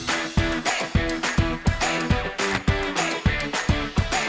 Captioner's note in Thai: ปรบมือ